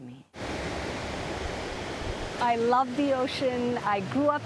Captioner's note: waves roaring